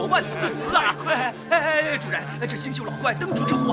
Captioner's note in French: Rires